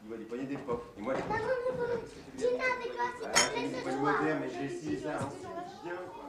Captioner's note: speaking french